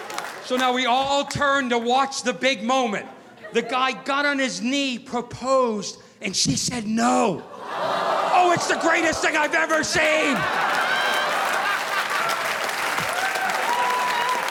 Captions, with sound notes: So now we all turn to watch the big moment. The guy got on his knee, proposed, and she said "No." (crowd awwing) It's the greatest thing I've ever seen! (audience applauding)